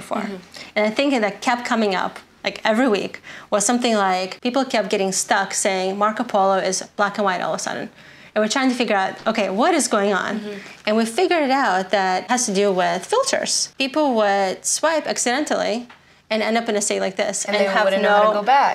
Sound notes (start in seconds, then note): none